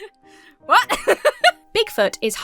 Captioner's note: laughs